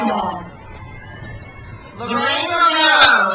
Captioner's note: crowd cheers